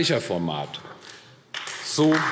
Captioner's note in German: Beifall AfD